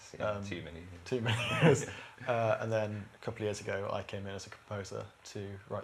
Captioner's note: laughter